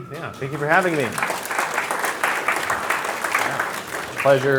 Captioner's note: applause